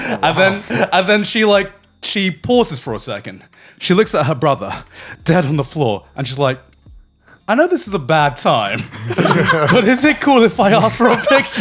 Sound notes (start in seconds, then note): 8.7 laughing